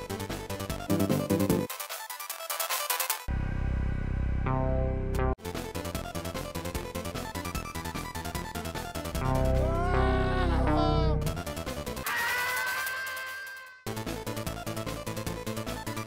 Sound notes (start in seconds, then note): 9.8 screaming noises; 12.0 more screaming noises